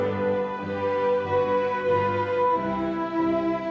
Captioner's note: none